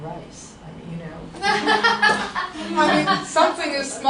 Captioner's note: laughter